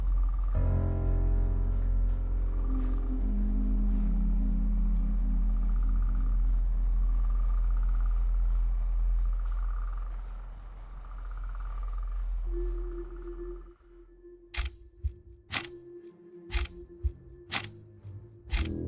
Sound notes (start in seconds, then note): 6.2 wind humming; 14.8 deep dramatic thudding music